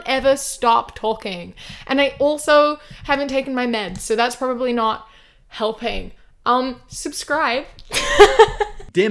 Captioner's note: laughs